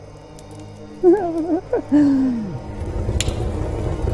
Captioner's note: Max chuckles